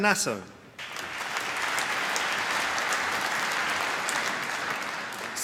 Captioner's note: applause